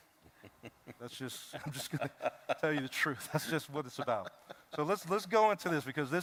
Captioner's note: laughter